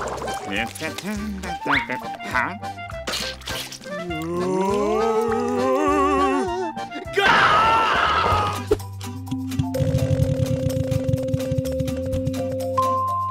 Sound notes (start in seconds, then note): 0.1 humming; 3.8 moaning